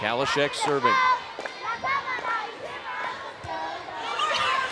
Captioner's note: cheerleaders chanting